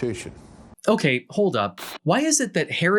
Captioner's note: record Scratch